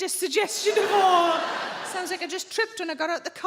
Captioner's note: audience laughing